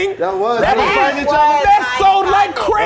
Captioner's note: overlapping chatter